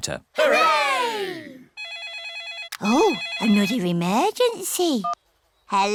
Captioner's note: phone rings